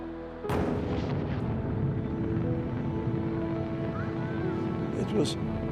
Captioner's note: rockets firing